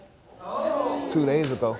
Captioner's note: audience reacts loudly